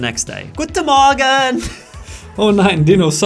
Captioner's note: laughing